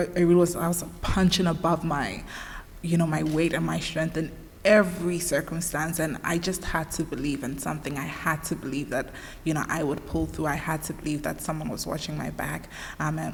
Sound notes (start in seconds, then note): none